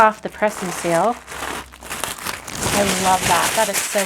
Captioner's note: plastic rustling